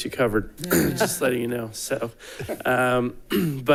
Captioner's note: people chuckling